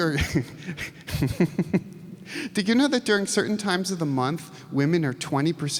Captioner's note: laughs